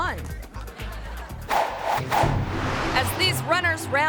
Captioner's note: audience laughing; graphics whooshing